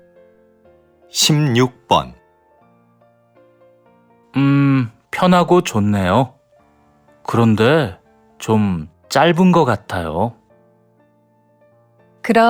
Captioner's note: Korean audio